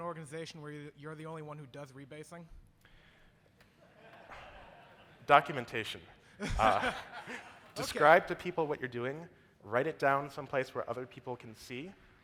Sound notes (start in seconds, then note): 3.8 audience laughs; 6.4 laughs